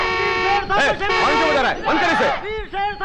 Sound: horn Honking

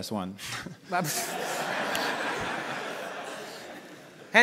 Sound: audience laughter

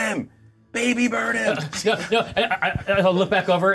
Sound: co-hosts laughing

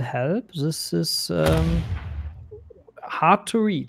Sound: booming sound

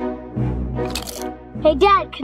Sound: dramatic music; chip crunching

